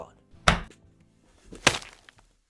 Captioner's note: smack